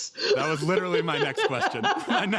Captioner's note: laughter